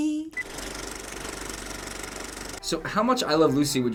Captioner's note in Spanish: Rollo de película hace clic